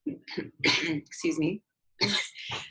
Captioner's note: coughs